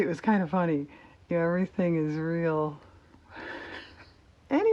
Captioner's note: laughs